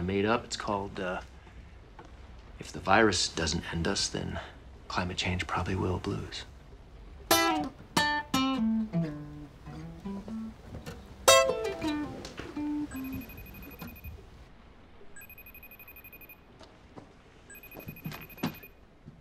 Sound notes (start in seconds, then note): 7.2 guitar playing; 12.8 computer ringing